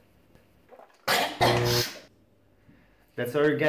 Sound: Sherry coughs

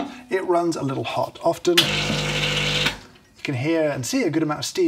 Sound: coffee machine hums

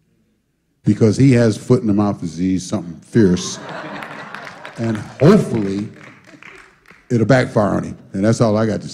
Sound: laughter

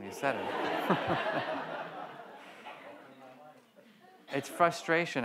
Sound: audience laughs

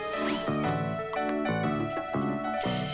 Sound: none

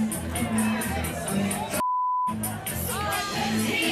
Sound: beep

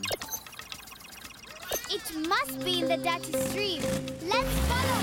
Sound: beeping; engine revving

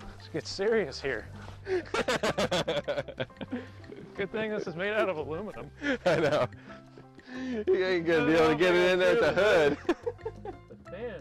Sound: laughs

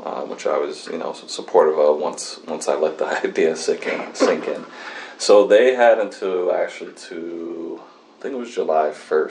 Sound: laughs

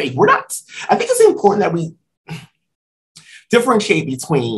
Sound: sigh

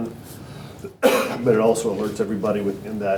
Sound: cough

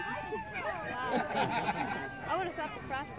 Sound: crowd cheers and shouts encouragement; laughter

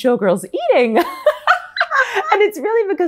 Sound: laughs

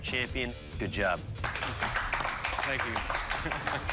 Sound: applause

